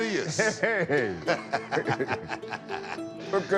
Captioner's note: laughs